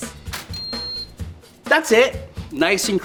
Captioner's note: toaster beeping